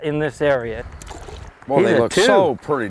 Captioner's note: splash